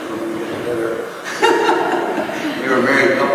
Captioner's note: laughing